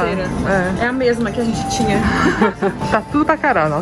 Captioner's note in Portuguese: risos